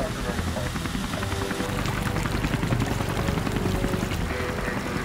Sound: helicopter overhead

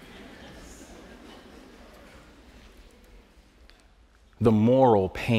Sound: light laughter

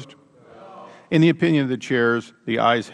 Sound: chorus of noes

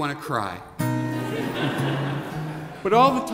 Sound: laughing

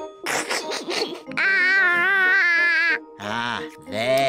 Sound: giggles

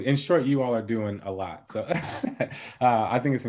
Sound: laughing

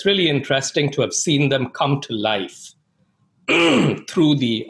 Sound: cleats throat

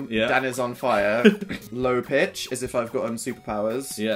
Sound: laughter

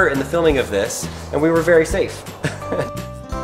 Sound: laughs

